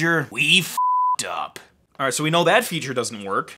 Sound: beeping

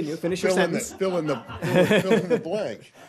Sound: laughter

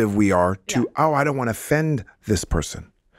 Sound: Justin laughs

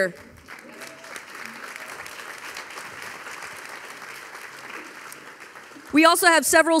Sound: audience applauding; audience cheering

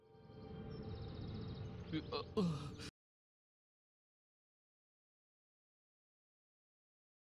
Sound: birds singing

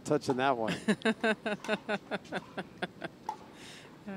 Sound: laughing

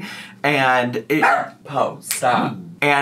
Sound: Po barking

